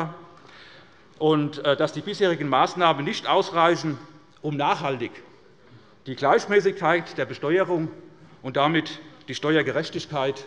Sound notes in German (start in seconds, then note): none